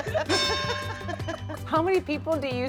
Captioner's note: laughing; laughter; ding!